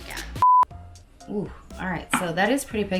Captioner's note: beep